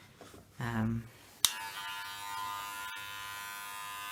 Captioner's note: buzzing